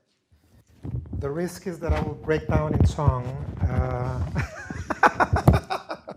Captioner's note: chuckles